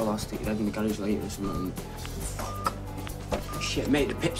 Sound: phone beeping

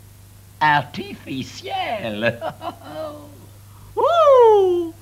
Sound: laughs

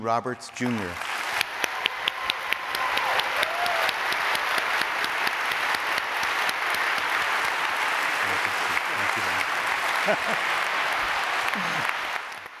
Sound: applause

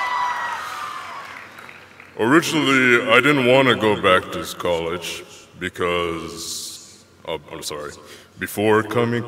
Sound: cheers and applause

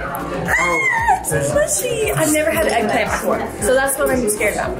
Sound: yells

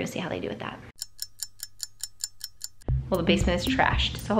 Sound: clock ticking

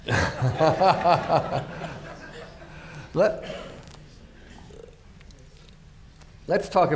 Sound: laughter

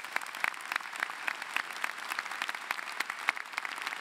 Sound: applause

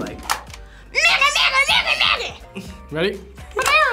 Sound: babbles

